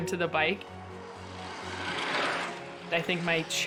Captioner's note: bikes whooshing